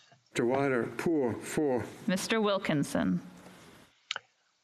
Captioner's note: speaking French